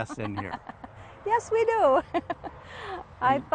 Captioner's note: laughing